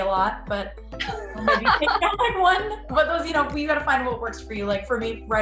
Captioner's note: laughs